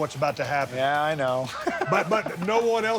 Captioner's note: laughs